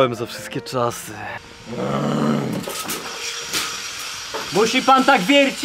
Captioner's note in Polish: głośne odgłosy wiercenia